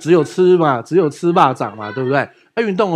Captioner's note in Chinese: 台语